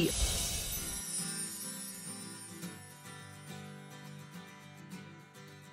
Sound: light music; twinkling

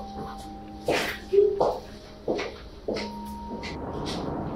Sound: footsteps

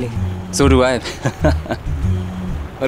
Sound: laughing

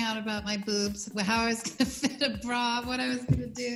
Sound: laughing

